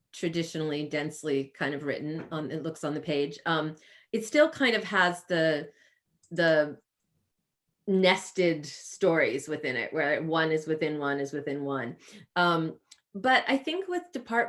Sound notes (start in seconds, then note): none